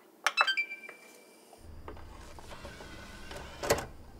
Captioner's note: ding; whirring